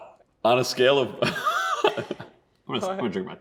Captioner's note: laughing